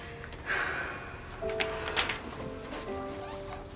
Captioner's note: sighs